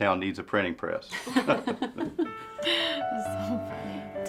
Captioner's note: laughing